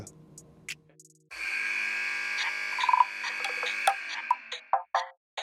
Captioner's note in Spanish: timbre de juego; música funky